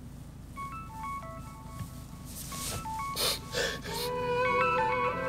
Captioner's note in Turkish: Telefon Çalıyor